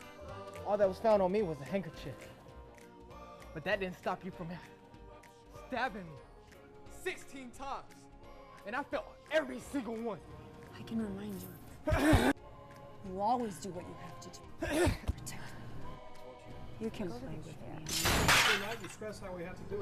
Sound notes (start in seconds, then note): 5.3 gasping; 11.5 grunting; 17.3 murmuring; 18.0 clattering